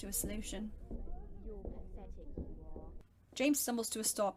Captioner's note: sounds a voice in the distance